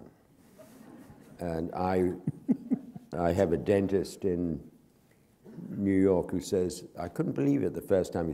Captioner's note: chuckle